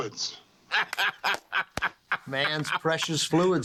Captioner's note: Spike laughing